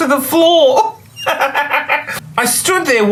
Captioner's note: laughs